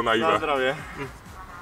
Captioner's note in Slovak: hm